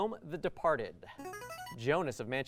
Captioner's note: buzzer